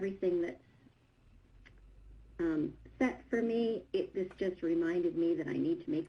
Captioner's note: other video playing in background